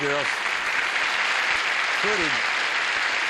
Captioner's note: applause